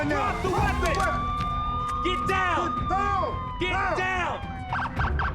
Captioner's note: police sirens wailing